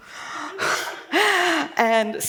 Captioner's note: laughs